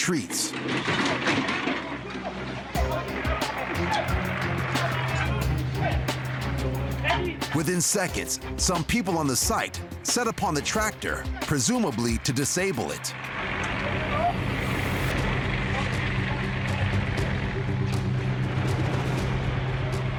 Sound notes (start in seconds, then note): 0.6 metal clanging; 2.8 rhythmic suspenseful music